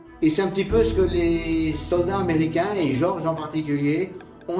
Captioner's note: speaking in French